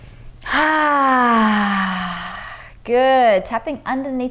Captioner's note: inhales deeply; exhales deeply